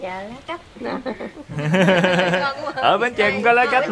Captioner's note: laughter